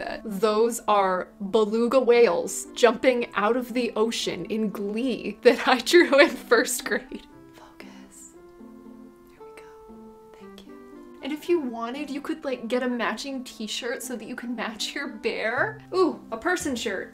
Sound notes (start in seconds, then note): 7.1 whispering